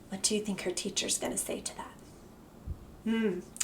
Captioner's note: gasps